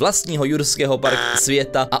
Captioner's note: incorrect_buzzer.MP3